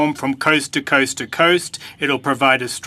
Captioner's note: speaking French